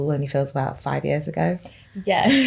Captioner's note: laughs